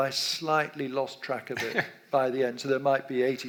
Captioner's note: laughs